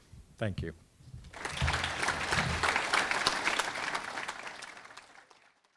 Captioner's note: audience clapping